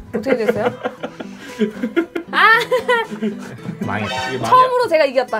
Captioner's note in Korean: 웃음